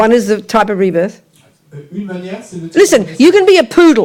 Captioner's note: speaking in French